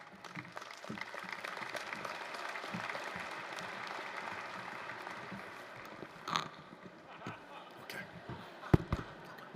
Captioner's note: applause